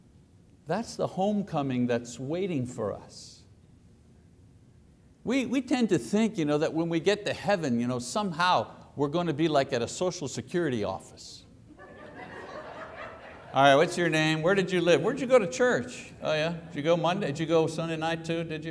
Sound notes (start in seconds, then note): 11.7 audience laughs